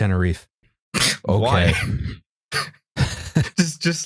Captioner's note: snorts